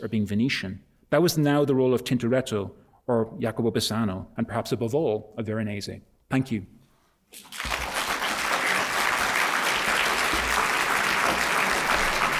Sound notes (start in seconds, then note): 7.3 applause